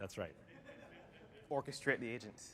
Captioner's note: laughter